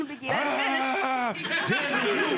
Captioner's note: argh noise